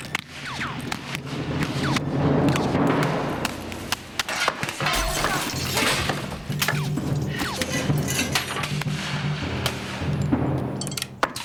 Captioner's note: gunfire